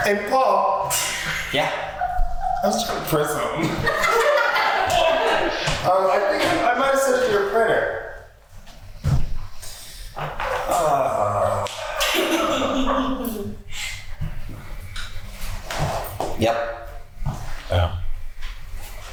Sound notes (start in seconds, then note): 3.4 cast laugh; 12.1 laughs